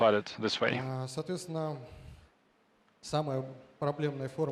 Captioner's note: speaking russian